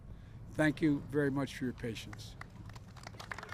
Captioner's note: applause